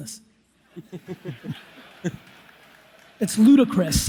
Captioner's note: audience laughs